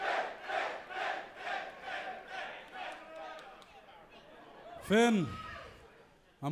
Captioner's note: crowd chanting